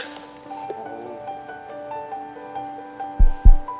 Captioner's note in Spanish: Thump Thump